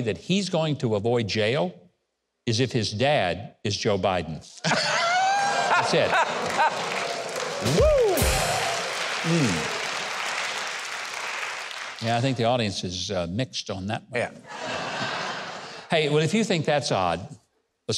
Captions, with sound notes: that he's going to avoid jail is if his dad is Joe Biden. (audience laughing) That's it. - Woo! (cymbal clashing) (audience applauding) - Yeah, I think the audience is mixed on that one. - Yeah. (audience laughing) - Hey, well, if you think that's odd,